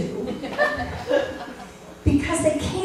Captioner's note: laughter